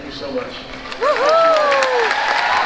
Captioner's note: applause